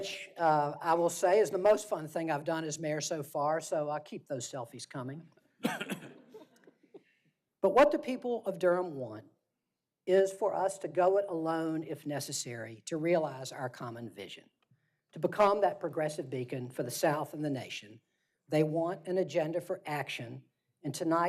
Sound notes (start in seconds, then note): 6.5 laughter